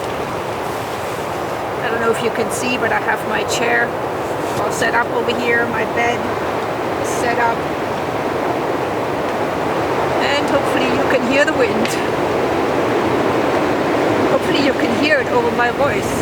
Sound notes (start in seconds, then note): 8.0 loud wind in the forest; 11.9 laughs